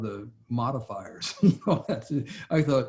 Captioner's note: laughs